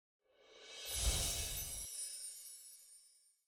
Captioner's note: chimes ringing